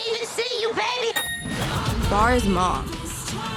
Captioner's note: ching sounds